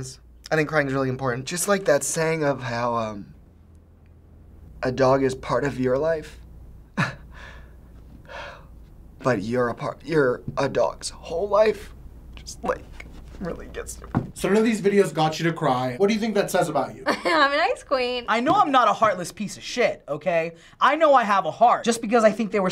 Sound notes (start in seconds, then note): 9.0 choked up; 17.0 laughs